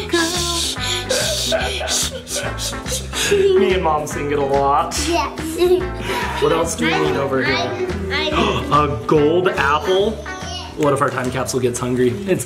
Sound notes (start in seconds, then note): 1.0 laughs; 5.9 laughs